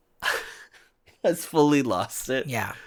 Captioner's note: laughs